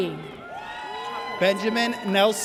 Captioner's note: audience cheers